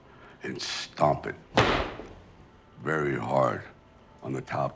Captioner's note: stomps